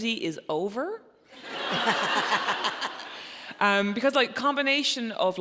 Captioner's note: audience laughing